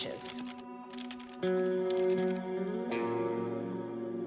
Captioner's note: typing on keyboard